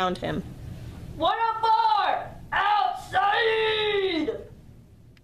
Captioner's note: yelling